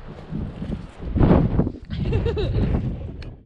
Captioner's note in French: rires